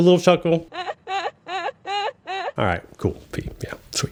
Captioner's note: girl laughs